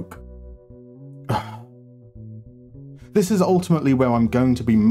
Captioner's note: sigh